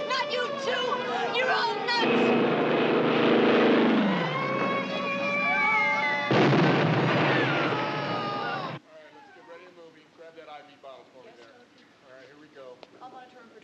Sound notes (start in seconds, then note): 6.2 explosion